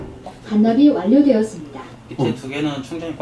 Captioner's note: machine sound